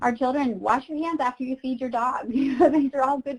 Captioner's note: chuckles